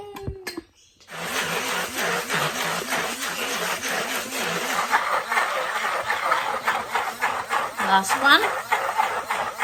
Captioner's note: blenders blend noisily